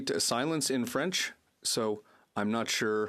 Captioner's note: speaking French